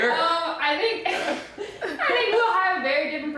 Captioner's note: laughing